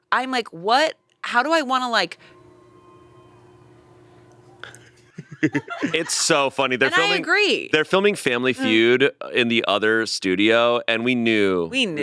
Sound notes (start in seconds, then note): 4.6 crew laughing; 5.1 laughing